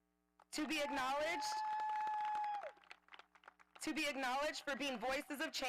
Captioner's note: audience applauding